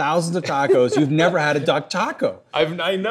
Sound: laughs

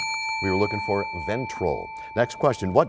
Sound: bell rings, time expires

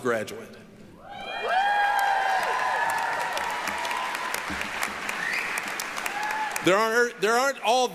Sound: applause, cheering

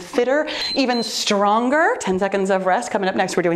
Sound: timer beeps

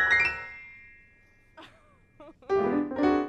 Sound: laugh

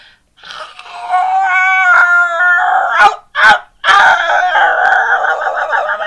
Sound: strained howl

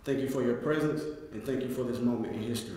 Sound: none

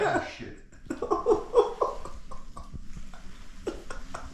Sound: laughing

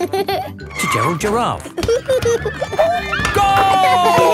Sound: giggling and squeaking; laughing; laughter

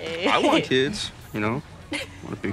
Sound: laughs

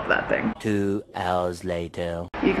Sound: voiceover

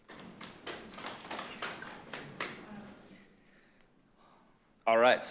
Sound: audience applauding

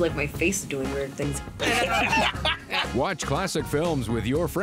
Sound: laughs

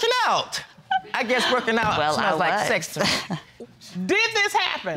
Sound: chuckles

